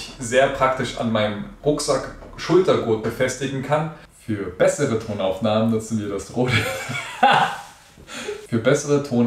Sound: laughing

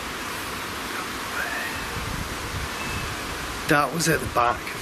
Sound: ghostly voice whispers

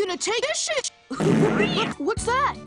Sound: fart With Extra Reverb

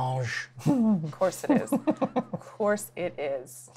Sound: giggles

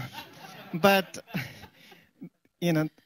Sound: laughter

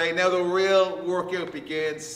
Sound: none

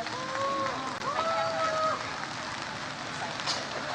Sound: audience cheers

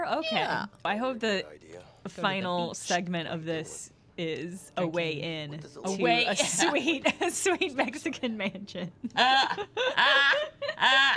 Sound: laughter

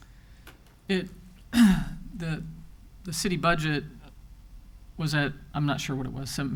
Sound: clears throat

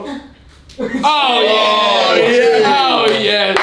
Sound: shouting

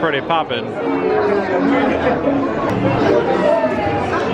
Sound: crowd chattering

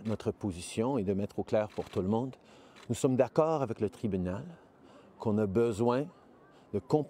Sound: speaking french

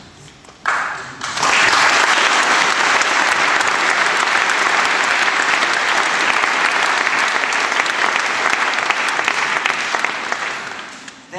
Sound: applause

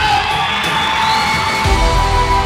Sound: audience cheers

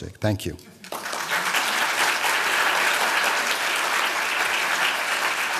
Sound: applause

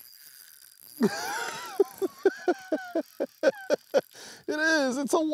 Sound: laughing

